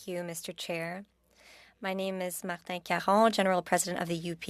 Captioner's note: speaking French